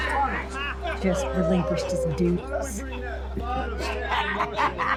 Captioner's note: laughing